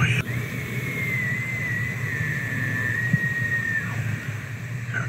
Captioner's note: elk bugle